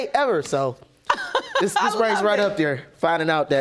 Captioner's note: judge lake chuckles; chuckling; audience applauding